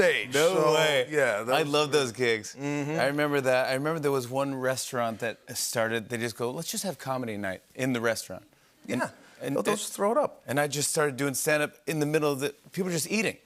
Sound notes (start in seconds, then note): none